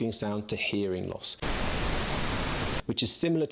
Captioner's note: static blaring